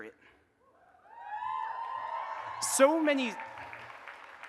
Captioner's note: audience cheers and applauds